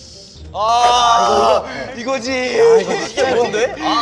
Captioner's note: cry of agony